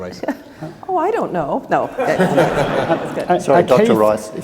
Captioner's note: laugh